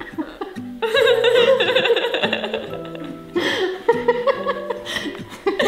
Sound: and mom laughing

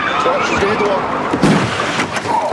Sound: tires squealing; crash

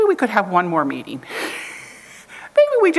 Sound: chuckles

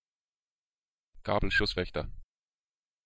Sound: fast Pronunciation

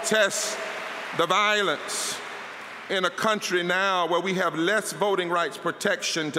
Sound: applause

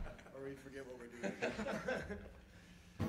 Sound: laughter

